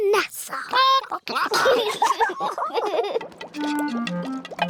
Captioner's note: chickens chatter; children giggle